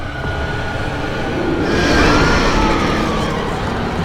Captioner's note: people screaming; demon roaring